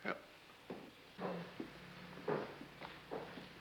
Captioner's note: footsteps